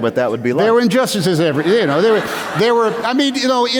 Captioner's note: laughter